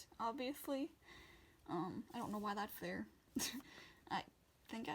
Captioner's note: laughs